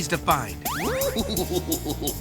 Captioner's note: giggling